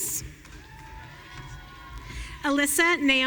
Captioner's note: audience cheering